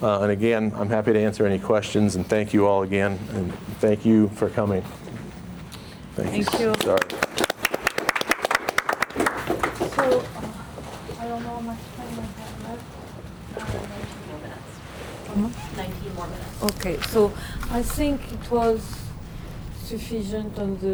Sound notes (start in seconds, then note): 6.4 crowd applauding; 10.0 facilitator whispering